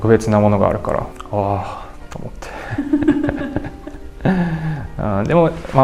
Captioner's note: laughs